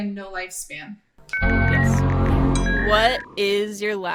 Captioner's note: overlapping technological sounds